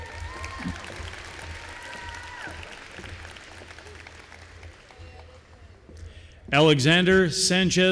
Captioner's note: applause